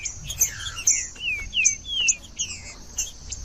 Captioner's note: trinca ferro cantando